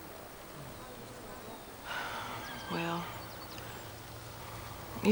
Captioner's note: sighs